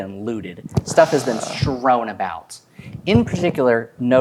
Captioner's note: inhales